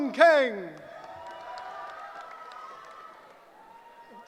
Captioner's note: cheering